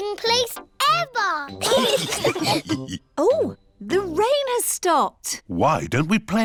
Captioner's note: laughter